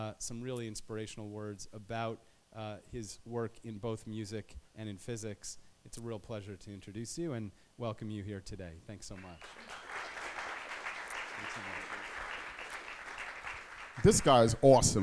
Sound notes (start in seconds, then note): 9.1 applause